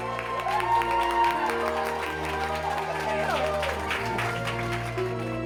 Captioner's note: all clapping and cheering